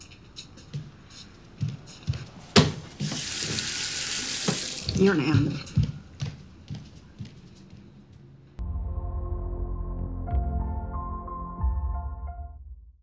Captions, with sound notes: [FAUCET RUNNING] You're an animal. [GENTLE MUSIC]